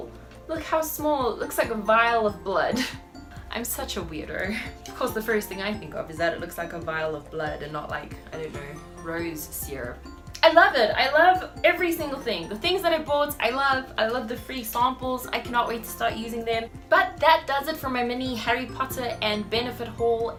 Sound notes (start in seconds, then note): 2.8 chuckles